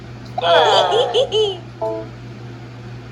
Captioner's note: Tomoko cheers; Martin and Maria groan